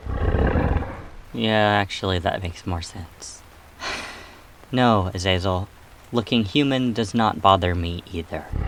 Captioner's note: sigh